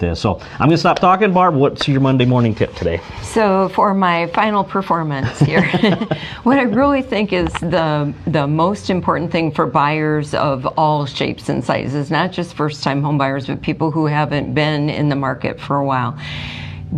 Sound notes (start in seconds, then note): 5.2 laughs